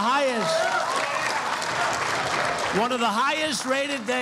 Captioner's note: applause